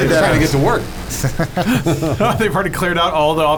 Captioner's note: laughs